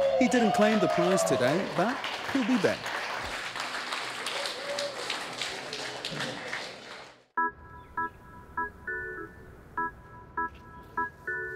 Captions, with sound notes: He didn't claim the prize today, but he'll be back. [applause]